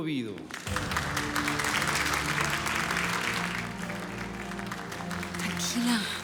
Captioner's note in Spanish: aplausos